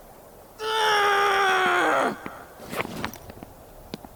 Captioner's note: Milton screams